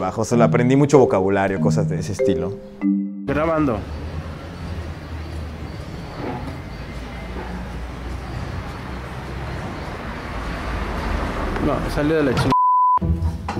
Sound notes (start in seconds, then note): 12.5 beep